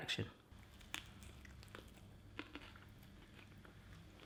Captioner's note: crunching